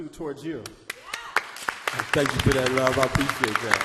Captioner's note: audience applauding